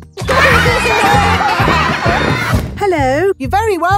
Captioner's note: laughter